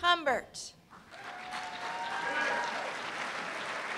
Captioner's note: applause